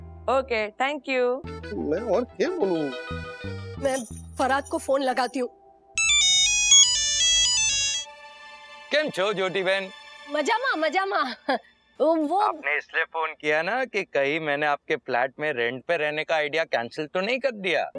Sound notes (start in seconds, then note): 6.0 phone ringing